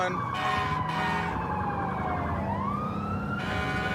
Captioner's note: emt sirens blaring